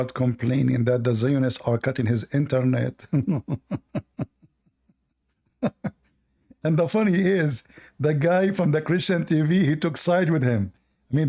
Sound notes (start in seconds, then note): 3.0 Ketawa